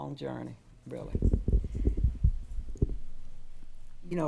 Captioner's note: microphone rumbling